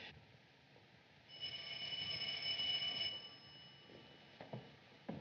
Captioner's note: ringing